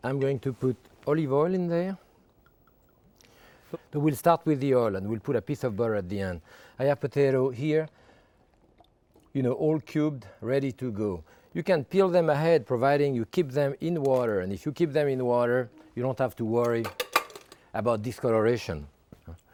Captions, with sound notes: I'm going to put olive oil in there. (oil glugging) We'll start with the oil and we'll put a piece of butter at the end. I have potato here, all cubed, ready to go. You can peel them ahead, providing you keep them in water. And if you keep them in water, you don't have to worry about discoloration. (bowl clinking)